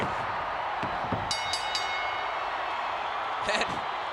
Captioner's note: ring bell dinging